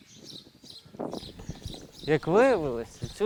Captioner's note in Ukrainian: спів пташок